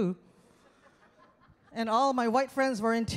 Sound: audience laughs

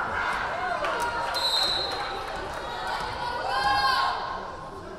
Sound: whistle blaring

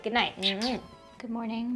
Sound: lips smacking

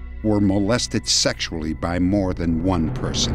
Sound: none

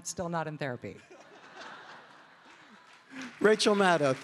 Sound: audience laughing

